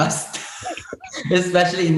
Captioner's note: Bretman laughs